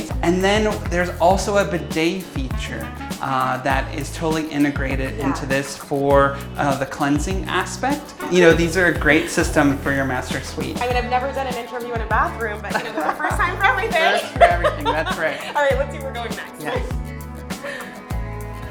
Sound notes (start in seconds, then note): 12.6 laughs